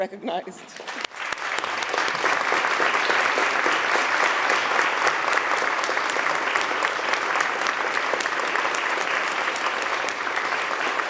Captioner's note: applause